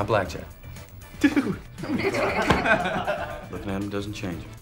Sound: laughing

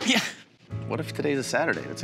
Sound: giggles

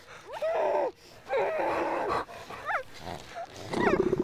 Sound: heavy breathing; growl

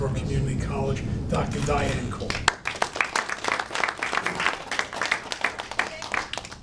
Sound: audience applauding

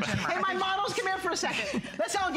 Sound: laughter

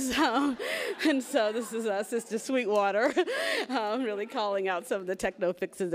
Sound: laughs; laughs

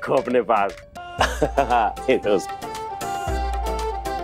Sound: laughter

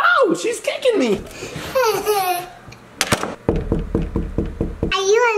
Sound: knocking; laughing

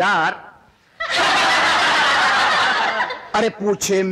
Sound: laughs

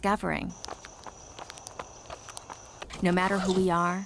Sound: running footsteps

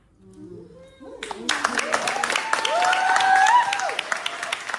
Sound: applause

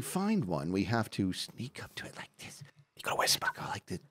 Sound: whispers

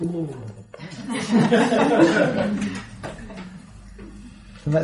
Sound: laughter

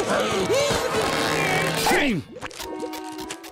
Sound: breathing heavily; grunting

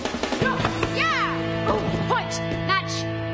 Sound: speaking foreign language; Taylor shouting

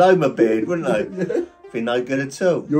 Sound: laughing

